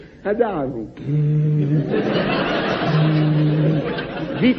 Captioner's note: blows